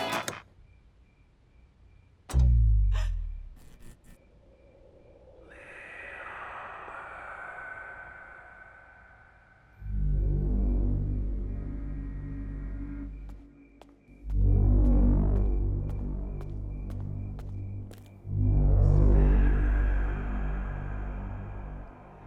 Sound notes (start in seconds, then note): 2.9 gasp; 5.7 creepy whispers; 13.1 footsteps; 18.8 creepy whispers